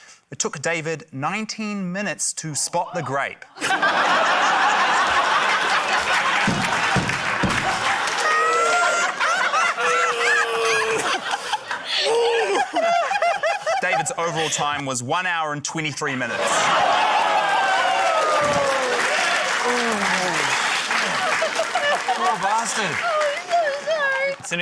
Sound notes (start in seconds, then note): 3.5 laughter; 5.0 applause; 9.9 groans in frustration; 18.1 laughter, applause